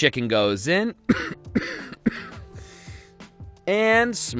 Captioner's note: coughing